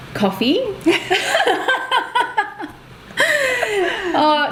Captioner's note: both laugh